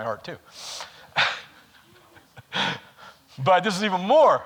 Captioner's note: laughs